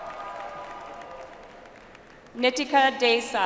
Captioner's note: audience applauds